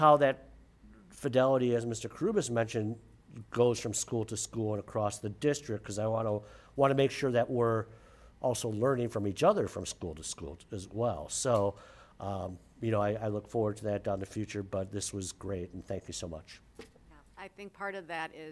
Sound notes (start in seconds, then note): none